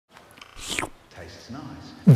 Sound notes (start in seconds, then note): 0.4 slurp